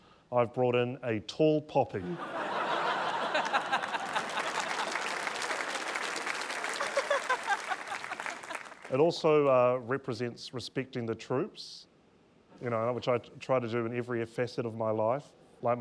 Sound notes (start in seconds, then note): 2.0 laughter; 4.9 applause